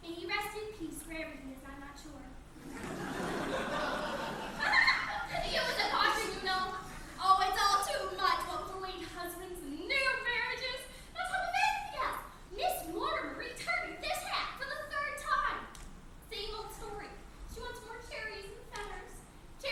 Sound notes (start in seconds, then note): 2.6 laughs